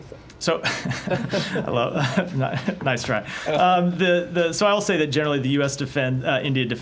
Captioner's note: laughter